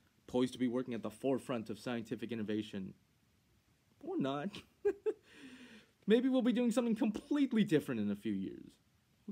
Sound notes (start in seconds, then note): 4.5 laughing